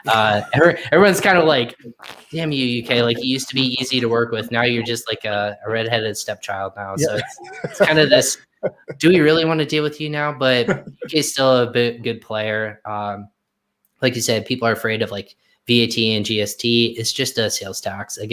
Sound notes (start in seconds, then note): 0.0 laughs; 6.9 chuckles